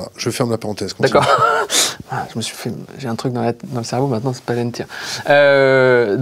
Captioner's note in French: rires